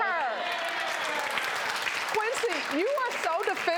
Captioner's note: crowd cheering